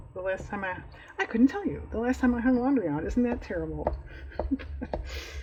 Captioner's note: laughs